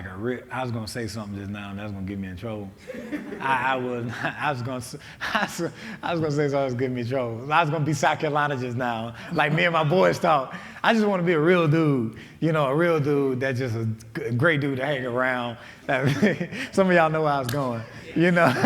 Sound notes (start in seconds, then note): 2.8 laughing